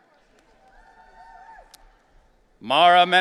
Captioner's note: audience cheering